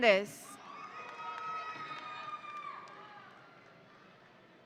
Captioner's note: audience cheering